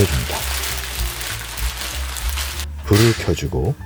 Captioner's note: rustling